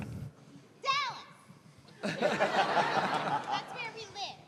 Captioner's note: laughter